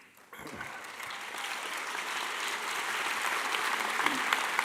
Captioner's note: audience applauding